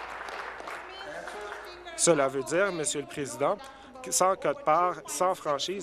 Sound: applause

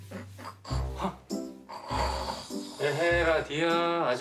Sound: snoring

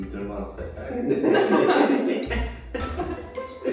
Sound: laugh

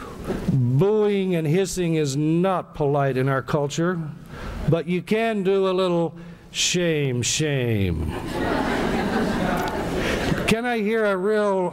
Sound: laughter

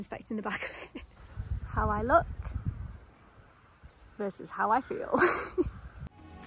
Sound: laughs

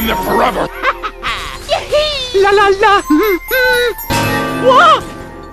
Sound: Mario laughing and humming

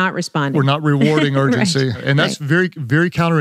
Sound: laughs

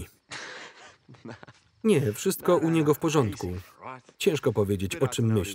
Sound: laughs

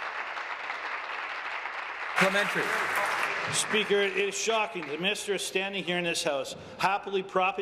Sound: applause

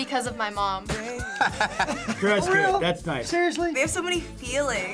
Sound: laughs

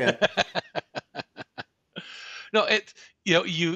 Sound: laughs

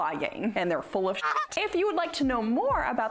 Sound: duck quacks

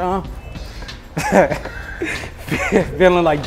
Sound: laughs

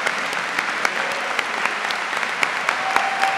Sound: cheers and applause

